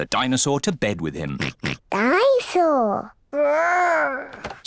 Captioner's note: oinks